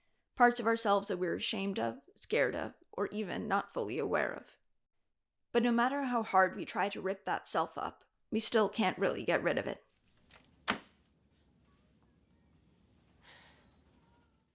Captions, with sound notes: Parts of ourselves that we're ashamed of, scared of, or even not fully aware of. But no matter how hard we try to rip that self up we still can't really get rid of it. [folder smacks shut] [Buffy exhales]